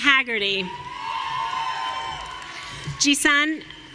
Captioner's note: audience cheering